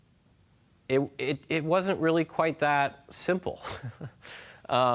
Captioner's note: chuckles